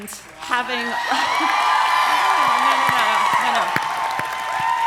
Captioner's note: audience cheering